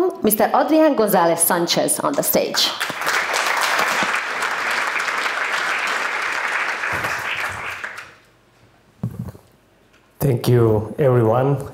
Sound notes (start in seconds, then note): 2.6 applause